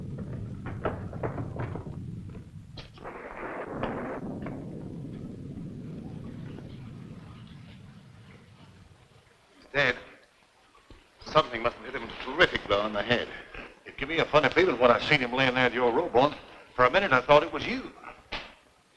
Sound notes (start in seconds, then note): 3.6 rain pattering; 3.6 thunder rumbling